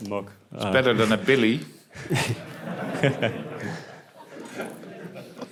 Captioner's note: laughter